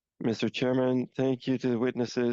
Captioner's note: speaking French